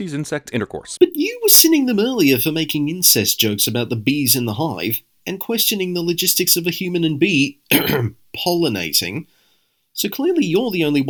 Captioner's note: ahem